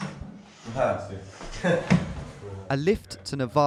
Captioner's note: speaking in a foreign language